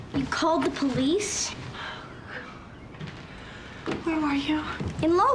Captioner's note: sighs